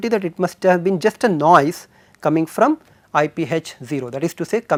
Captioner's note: thermal noise